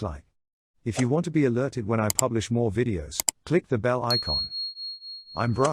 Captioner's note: ding